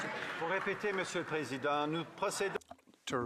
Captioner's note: some Applause